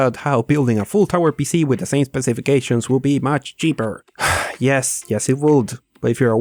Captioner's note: sigh